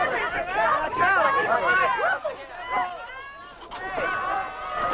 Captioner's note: townsfolk clamoring